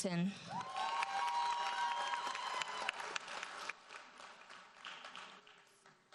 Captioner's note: audience cheers and applauds